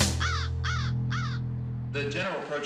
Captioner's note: crow cawing